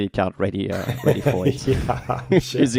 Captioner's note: laughing